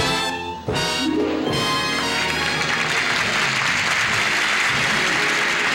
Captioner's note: applause